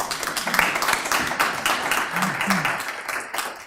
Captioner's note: applause